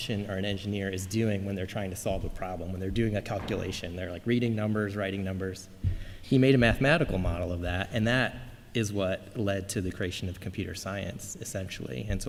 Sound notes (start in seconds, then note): none